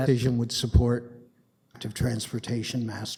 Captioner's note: audio drop